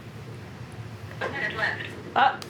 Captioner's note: automated Voice